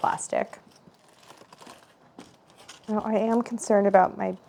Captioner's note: foil crumbling